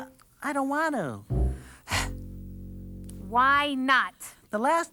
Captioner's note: sighs